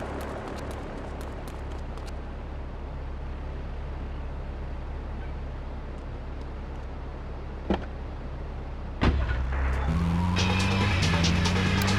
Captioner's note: plane engine roaring